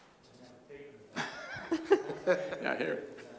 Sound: laughter

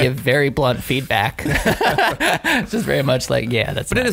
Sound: laughing

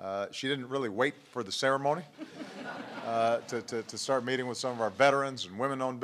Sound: laughter

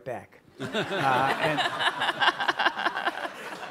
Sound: all laugh

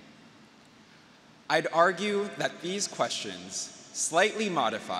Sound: none

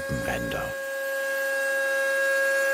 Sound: grinding noise

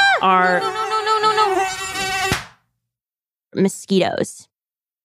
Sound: slap

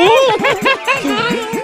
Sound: laughs

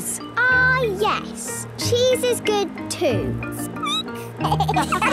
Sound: squeaking; laughter

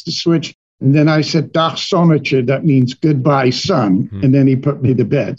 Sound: foreign language 00:32:01

